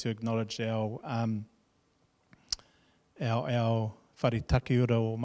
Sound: speaking in foreign language

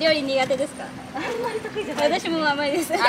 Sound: laughs

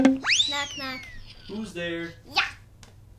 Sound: drum beating; whistle hisses; boink

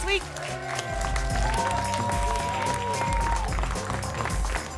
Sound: applause and cheering cont

